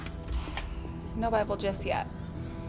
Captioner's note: armor continues clanking; gentle suspenseful music; sighs